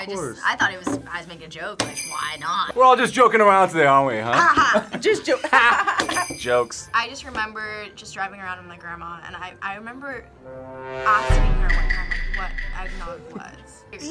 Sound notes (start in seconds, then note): 2.2 bells jingling; 4.3 both laugh; 6.0 bells jingling